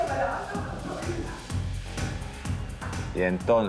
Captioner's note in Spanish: voces en el pasillo